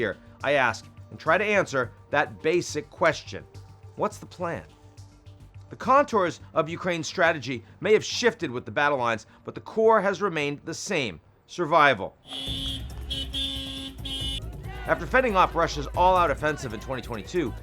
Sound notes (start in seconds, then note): 12.2 car horn beeping